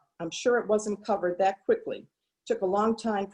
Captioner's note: none